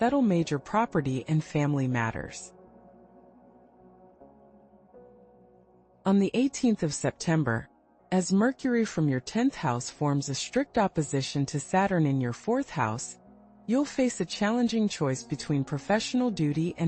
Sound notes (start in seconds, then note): 5.0 pause